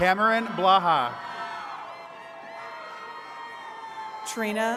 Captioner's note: attendees cheering